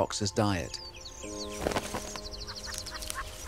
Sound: birds chirping

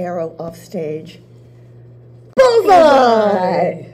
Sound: voices

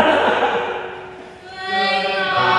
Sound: laughter

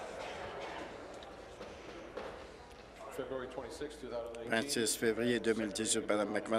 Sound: conversation din

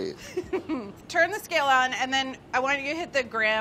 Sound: laughs

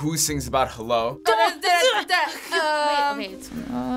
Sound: stammering nervously

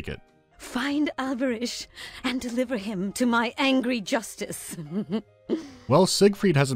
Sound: menacing giggle

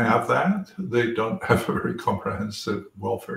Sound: laugh

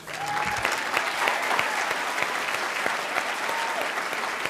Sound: applause

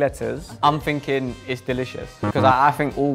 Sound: buzzer buzzes

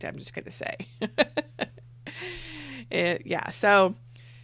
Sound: laughs

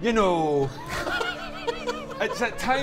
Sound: laughs

